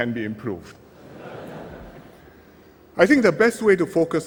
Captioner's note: laughter